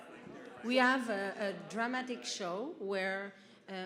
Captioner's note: voiceover